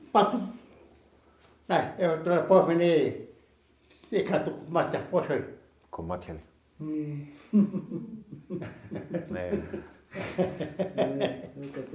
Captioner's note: laughing